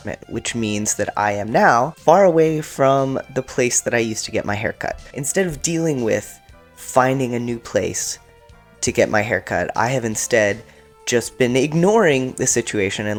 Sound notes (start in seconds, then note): none